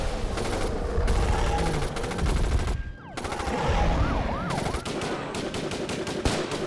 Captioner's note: growling; guns firing